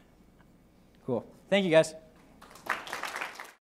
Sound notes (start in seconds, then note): 2.4 audience applause